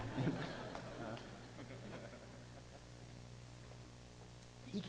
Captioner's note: audience laughing